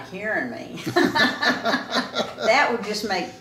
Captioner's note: both laughing